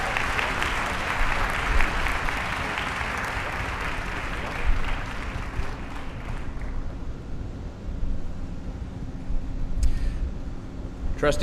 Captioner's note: applause